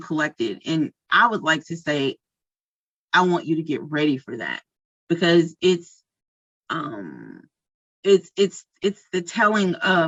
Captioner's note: stammers